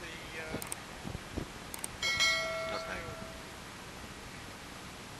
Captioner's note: WHOOSH, Click, Click, DING DING - sounds of the subscription reminder!